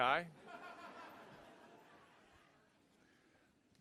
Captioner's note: laughing